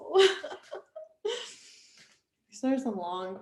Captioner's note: laughing